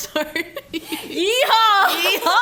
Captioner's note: laughs